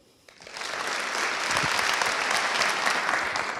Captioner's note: applause